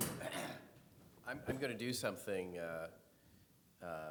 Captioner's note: clears throat